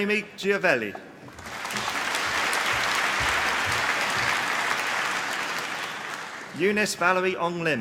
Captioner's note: applause